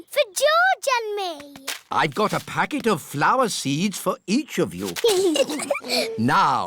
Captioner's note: both giggling